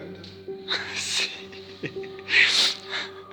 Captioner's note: chuckles